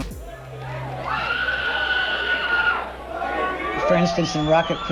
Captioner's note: fans screaming